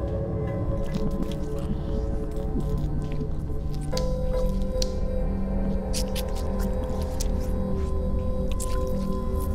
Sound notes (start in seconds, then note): 3.8 flesh squishing; 3.8 light dramatic music